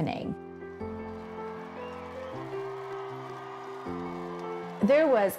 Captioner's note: crowds cheering